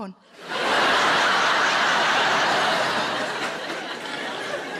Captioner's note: audience laughing